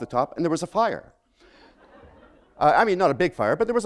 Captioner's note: laughter